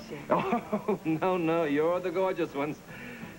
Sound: nervous Laugh

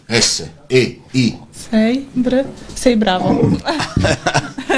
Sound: laughs

